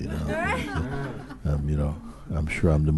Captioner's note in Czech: smích